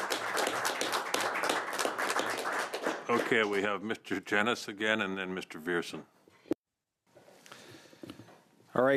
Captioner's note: applause